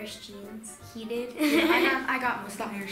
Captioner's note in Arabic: يضحك